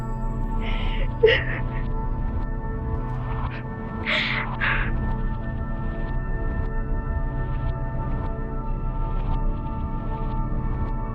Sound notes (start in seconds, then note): 0.7 Tiffany crying